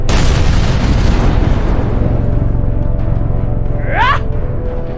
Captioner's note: explosion booming; Xu Xang grunting